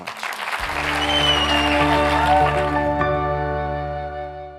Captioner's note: audience cheers